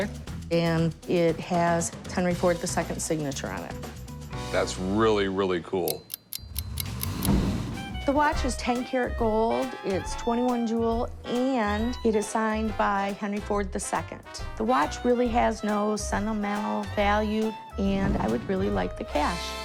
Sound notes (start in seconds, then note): 5.8 watch ticking